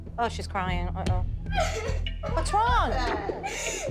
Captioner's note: crying